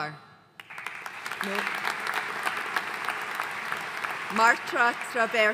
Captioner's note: audience applauding